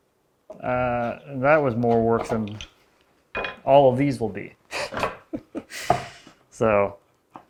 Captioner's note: laughs